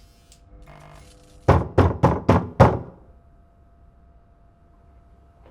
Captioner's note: knocking on door